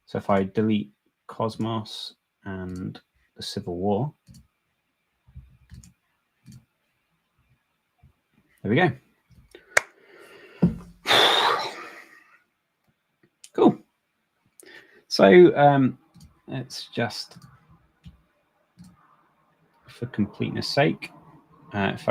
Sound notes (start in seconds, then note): 9.9 palms clasps; 11.0 sighs